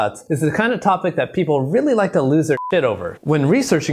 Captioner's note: beep